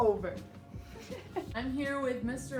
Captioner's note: laughs